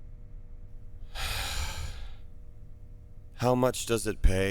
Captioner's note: sigh